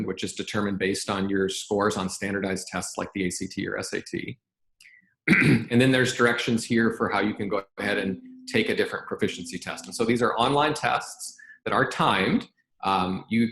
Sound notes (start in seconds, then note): 5.2 clears throat